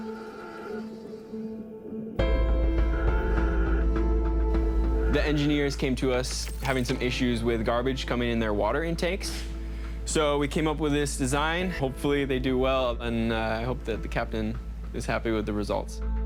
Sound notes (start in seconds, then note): 0.0 gentle music; 2.1 respirator sounds